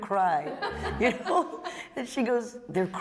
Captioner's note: laughter